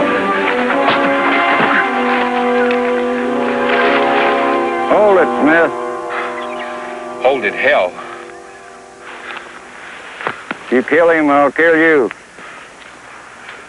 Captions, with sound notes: [smack] [gun clicking] Hold it, men. (panting) "Hold it," hell. If you kill 'im, I'll kill you.